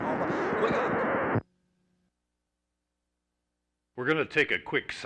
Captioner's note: record scratching